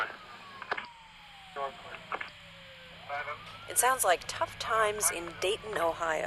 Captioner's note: radio squawking